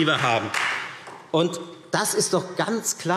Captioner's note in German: Beifall Freie Demokraten